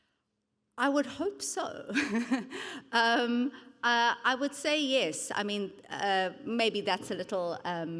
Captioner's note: chuckles